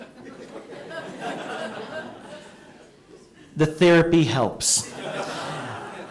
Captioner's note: laughter